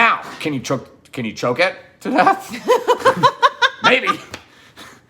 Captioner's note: laughs